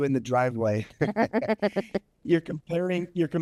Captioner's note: both chuckle